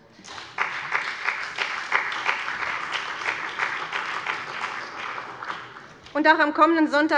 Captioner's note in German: Beifall bei dem BÜNDNIS 90/DIE GRÜNEN und der CDU